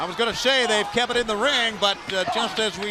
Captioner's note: crowd chatter